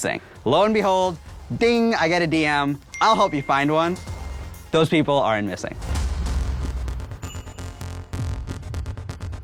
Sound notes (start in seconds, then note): 2.9 computer dings